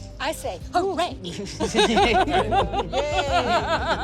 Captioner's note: laughing